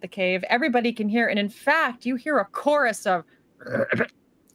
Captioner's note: Deborah croaks